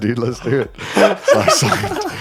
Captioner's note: all laughing